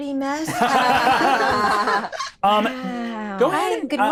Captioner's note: all laughing